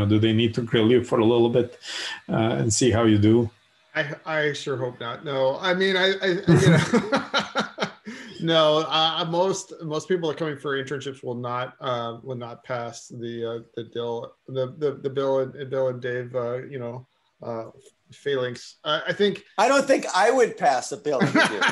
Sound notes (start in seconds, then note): 6.0 laughing